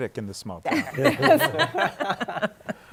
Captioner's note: laughter